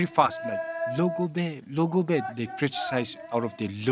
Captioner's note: speaking in foreign language